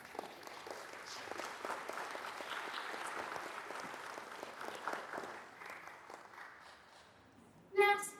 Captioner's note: applause